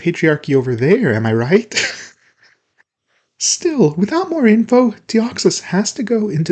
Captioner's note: laughs at my own corny joke